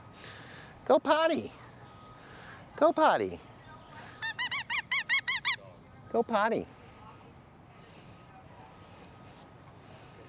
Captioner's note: toy Squeaking